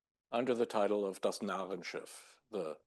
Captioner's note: speaking German